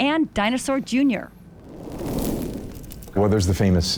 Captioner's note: fire SFX